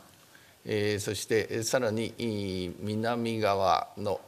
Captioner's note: speaking japanese